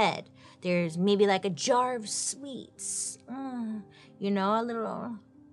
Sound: moans

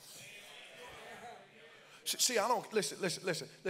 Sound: congregants call out

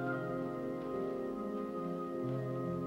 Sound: shoes padding

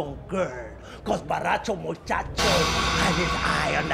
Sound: horror sound effect

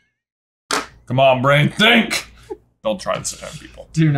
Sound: giggles

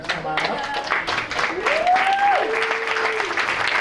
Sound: applause

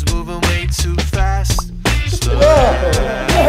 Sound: bubble popping

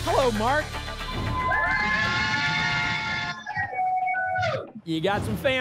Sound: cheering

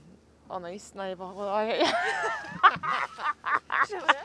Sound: laughs

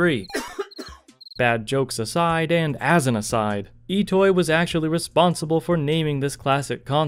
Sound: crickets chirping

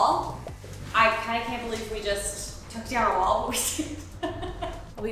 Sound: chuckles

